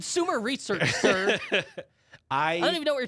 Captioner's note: laughs